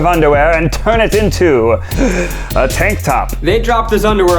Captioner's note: gasps